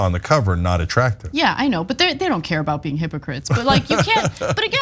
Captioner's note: laugh